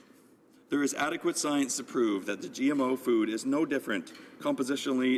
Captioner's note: none